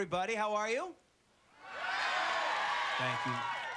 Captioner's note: audience yelling